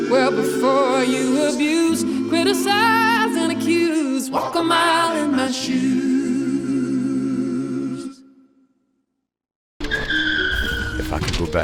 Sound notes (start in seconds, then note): 9.7 tires screeching